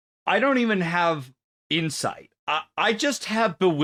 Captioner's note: none